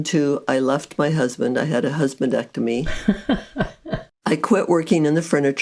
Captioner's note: laughs